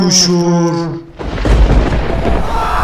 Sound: lightning Sound

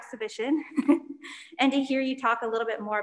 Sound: chuckles

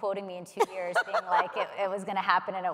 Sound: laughs

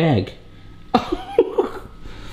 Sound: laughing

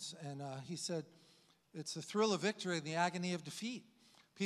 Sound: none

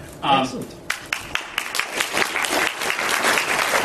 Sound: applause

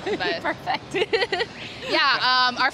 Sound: laughs

